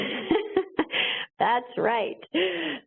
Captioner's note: laughs